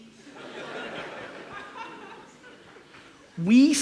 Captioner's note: audience laughs